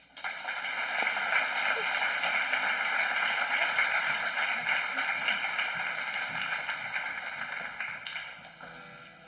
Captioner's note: applause